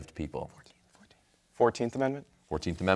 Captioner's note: whispering